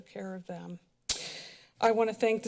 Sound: smacks lips

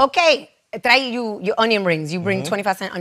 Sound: spanish

